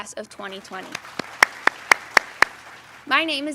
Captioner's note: applause